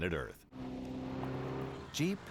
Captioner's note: engine revs